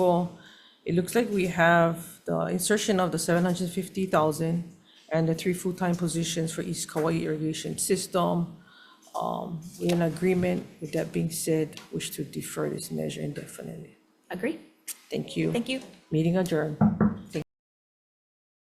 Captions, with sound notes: it looks like we have the insertion of the 750,000 and the three full-time positions for East Kauai Irrigation System. We are in agreement. With that being said, wish to defer this measure indefinitely. - Agree. - Thank you. - Thank you. Meeting adjourned. (gavel banging) Thank.